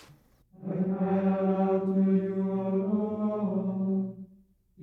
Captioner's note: chanting